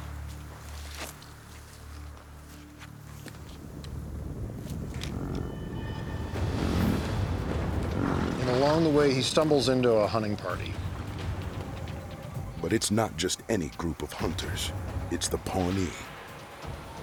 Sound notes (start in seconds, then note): 6.6 buffalo snorting